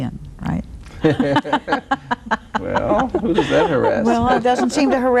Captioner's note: laughs happily